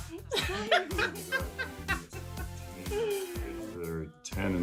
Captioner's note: laughing